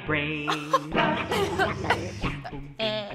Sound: laughing; shocked chuckle

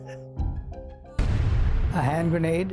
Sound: chuckling; booming

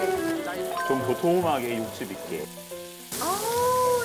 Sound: pork Belly lands on the grill

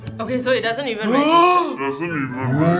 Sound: gasps

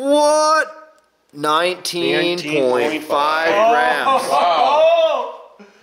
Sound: shouts

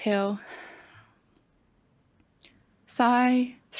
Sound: exhales

